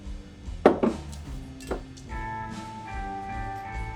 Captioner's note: bottle clanking